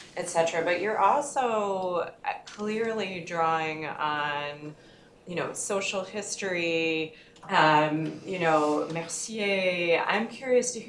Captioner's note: french